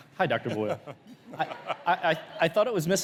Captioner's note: laughs